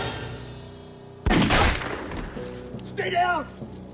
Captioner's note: dramatic music; gunshot blasts